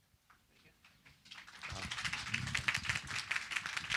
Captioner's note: applause